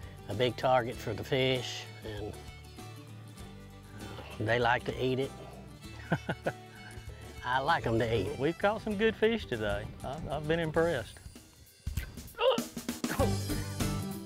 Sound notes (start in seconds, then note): 5.9 laughing; 11.3 country Music